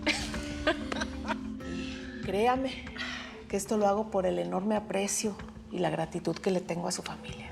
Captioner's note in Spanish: Risas